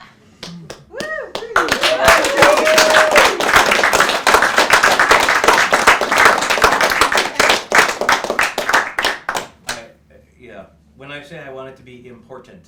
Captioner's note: cheering